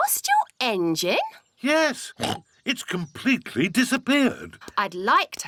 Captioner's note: oinks